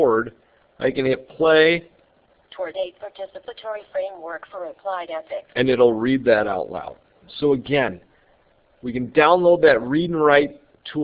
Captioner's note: computer reading